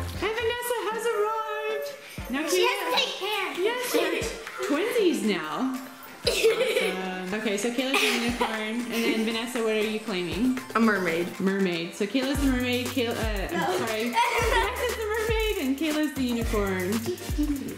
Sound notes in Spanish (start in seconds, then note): 6.2 Chicas se ríen